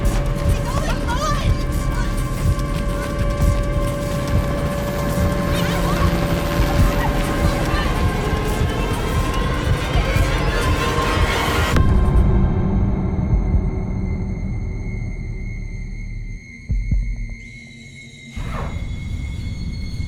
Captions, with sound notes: -Where are wo going? -Run! Mom, mom. [helicopter blades whirring] [indistinct shouting] [music stops] [high-pitched ringing]